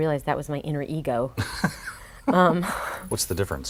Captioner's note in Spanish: Laughs